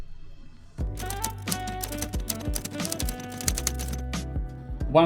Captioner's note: keys clacking